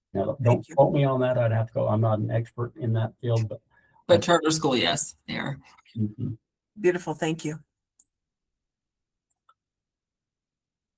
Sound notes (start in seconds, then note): 5.9 gave a murmured assent